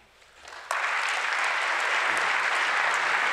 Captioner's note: applause